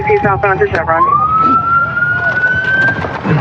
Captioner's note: sirirens